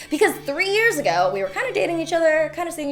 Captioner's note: none